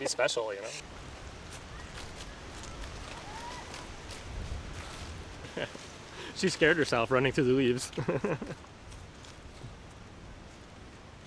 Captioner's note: laughs